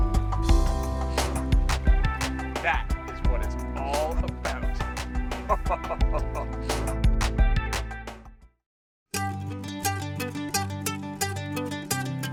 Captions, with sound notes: - That is what it's all about. (laughing) (upbeat folk music)